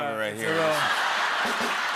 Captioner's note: laughter and applause